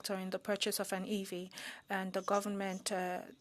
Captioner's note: speaking French